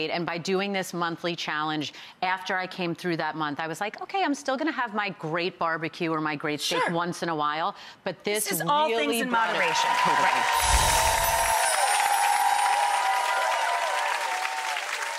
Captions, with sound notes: and by doing this monthly challenge, after I came through that month, I was like okay, I'm still gonna have my great barbecue, or my great steak once in awhile, but this is really part of-- This is all things in moderation, right. (audience cheers) (bells chime)